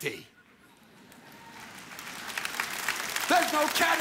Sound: audience applauds

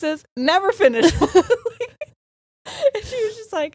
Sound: both laughing

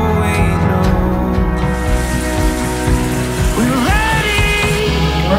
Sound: water running

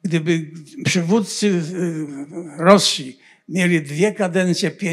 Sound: foreign language

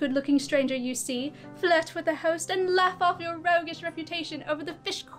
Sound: none

